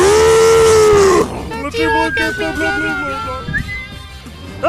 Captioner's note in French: Team Rocket, voix aigües